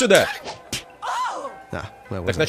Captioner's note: slapping, woman screams